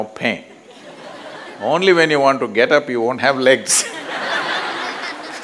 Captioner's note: laughter; 笑聲